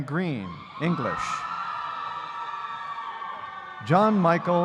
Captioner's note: audience cheering